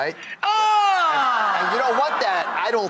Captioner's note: audience groans